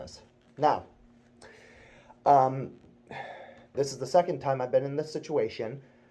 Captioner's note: sigh